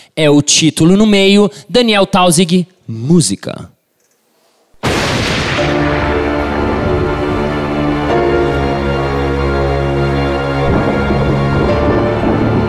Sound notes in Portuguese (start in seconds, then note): 4.9 música dramática; 5.1 trovão